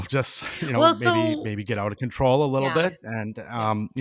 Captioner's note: chuckling